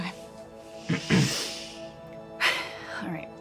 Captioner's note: sighs; Jack clears throat